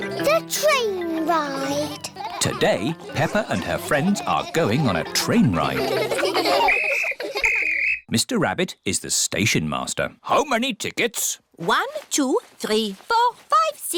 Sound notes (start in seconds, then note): 6.6 blows whistle